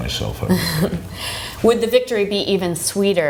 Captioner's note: laughs